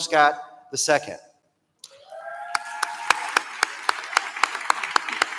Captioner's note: applause